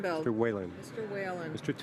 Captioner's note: speaking in french